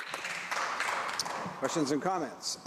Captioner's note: some Applause